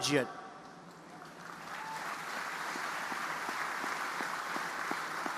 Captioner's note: audience applauding